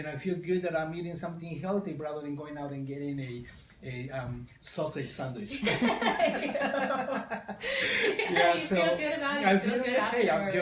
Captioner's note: laughter